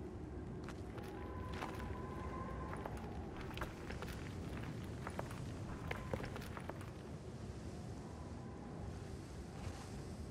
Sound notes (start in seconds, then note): 2.7 rocks rolls down cliff